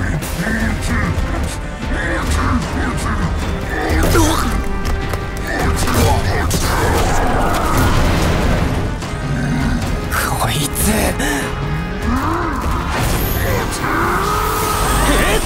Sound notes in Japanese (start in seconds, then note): 5.4 咆哮; 6.8 爆発音